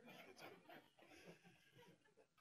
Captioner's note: laughter